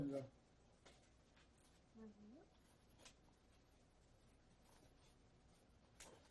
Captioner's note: pauses 13 seconds